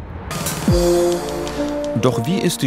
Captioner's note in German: Schreibmaschinengeräusche